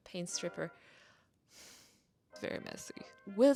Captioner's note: rolls eyes and sighs dramatically; in a low voice